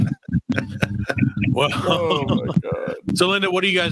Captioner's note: laughing